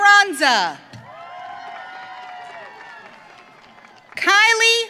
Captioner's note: audience cheering